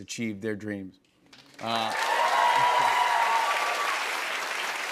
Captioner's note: cheers and applause